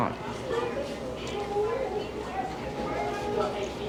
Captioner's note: people chattering